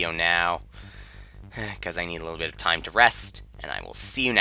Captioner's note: sigh